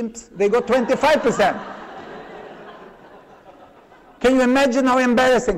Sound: laughter

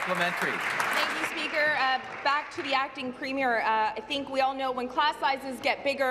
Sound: applause

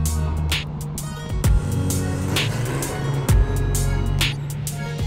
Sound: engine revs

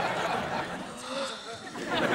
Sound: gasping

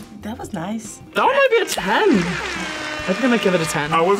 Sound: air horn blares

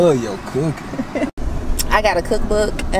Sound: woman laughing

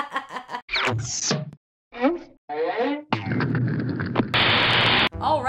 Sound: intro noises then white noise for dramatic affect

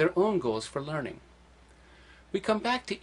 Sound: pause

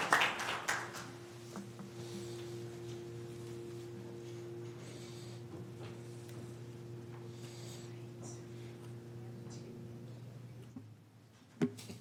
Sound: applause

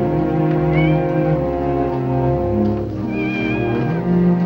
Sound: cat mewing

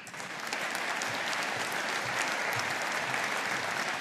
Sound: audience applauding

